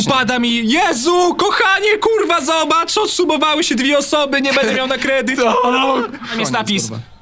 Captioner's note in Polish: krzyczy z przerażenia